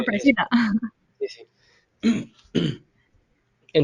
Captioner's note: coughs